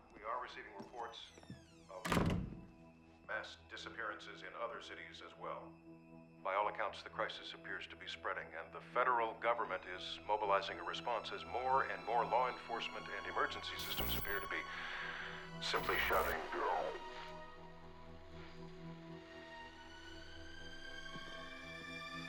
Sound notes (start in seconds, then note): 15.6 audio distorts; 19.6 eerie music